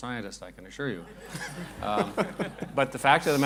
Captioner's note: laughter